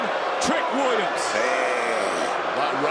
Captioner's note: crowd boos